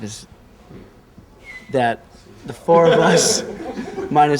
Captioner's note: laughs